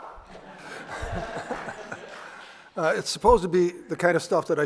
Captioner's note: laughter and scattered applause